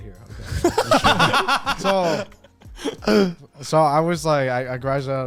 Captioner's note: all laughing